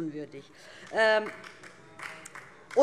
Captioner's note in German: Beifall DIE LINKE